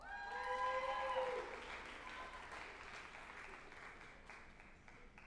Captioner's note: group applauding and cheering